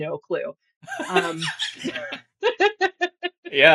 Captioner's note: laughing